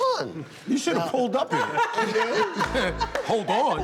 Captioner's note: laughter